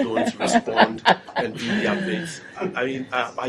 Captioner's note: laughter